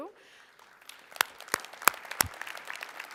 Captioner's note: applause